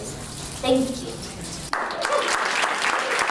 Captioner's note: applause